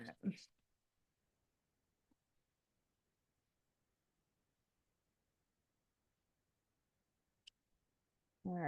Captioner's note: silence